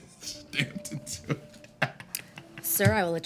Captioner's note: chuckles and mumbles